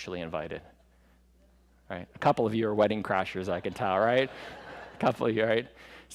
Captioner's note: laughter